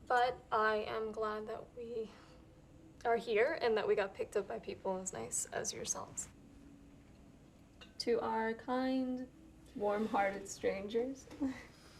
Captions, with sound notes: But I am glad that we are here and that we got picked up by people as nice as yourselves. To our kind warm hearted strangers (laughs).